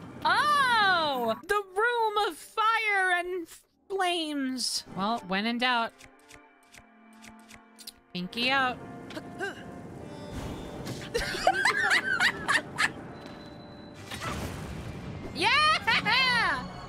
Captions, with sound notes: Ohhhh! The ROOM of FIRE and... Flames...! Well, when in doubt... Pinky out. [Hysterical Laughter] Yeaaah-haha!